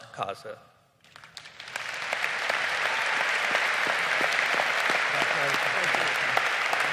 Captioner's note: audience applauding